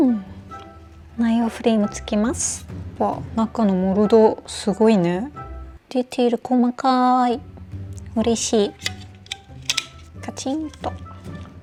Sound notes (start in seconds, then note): 10.3 snap